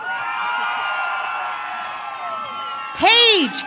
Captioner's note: audience cheering